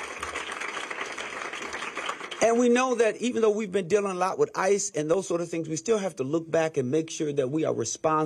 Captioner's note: applause